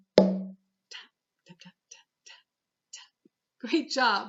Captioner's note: tap - tap tap - tap - tap